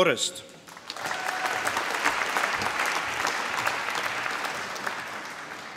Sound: applause

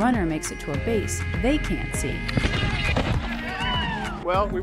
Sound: person cheers

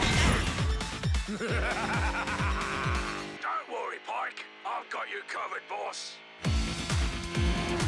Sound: laughs

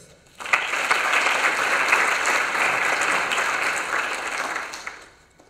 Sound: applause

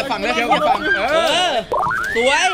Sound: cheering; screams

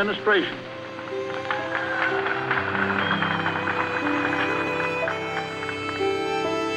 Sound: applause

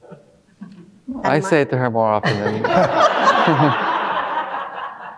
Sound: all laughing

